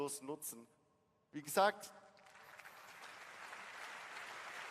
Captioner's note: applause